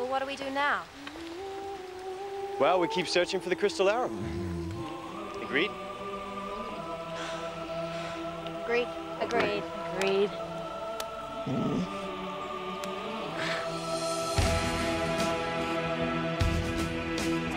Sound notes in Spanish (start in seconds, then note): 11.5 Alvar gruñendo; 13.3 música emocionante